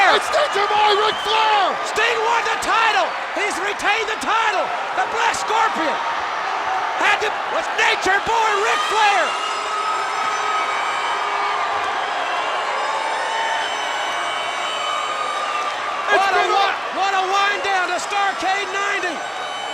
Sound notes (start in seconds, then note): 9.3 siren blowing; 11.5 crowd cheering